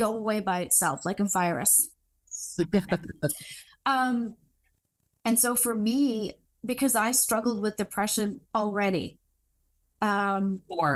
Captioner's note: chuckles